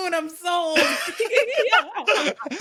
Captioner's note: both laughing